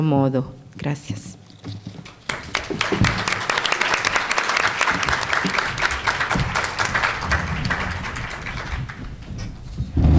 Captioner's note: applause